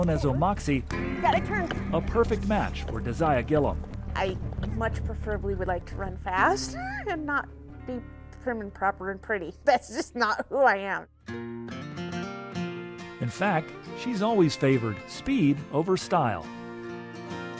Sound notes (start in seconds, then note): 6.4 laughs; 10.3 laughs; 11.3 gentle music